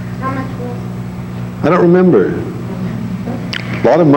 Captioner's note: woman speaks faintly